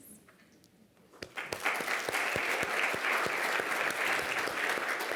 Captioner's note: audience applauding